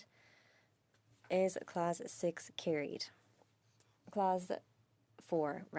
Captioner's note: speaking French